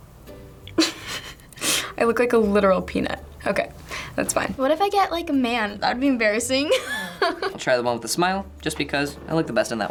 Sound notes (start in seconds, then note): 0.7 snickers; 6.7 laughs